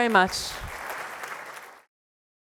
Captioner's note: audience applauds